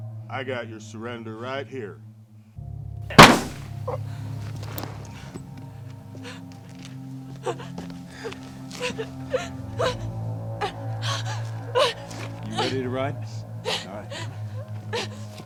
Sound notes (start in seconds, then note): 3.1 gun fires; 3.2 groans; 7.3 Nellie sobs